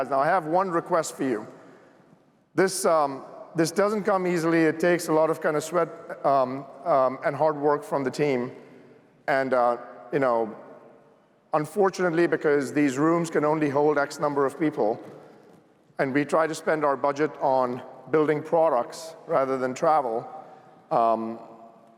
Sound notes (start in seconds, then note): none